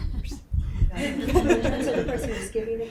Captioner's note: group laughing